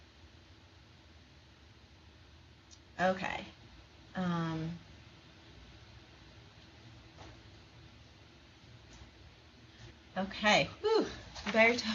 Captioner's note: silence